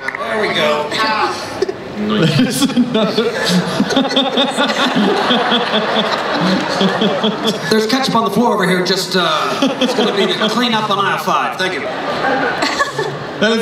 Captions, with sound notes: - There we go. (everyone laughs) There's ketchup on the floor over here, just, it's gonna need a clean up on aisle five, thank you.